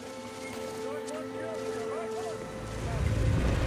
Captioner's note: soldiers shout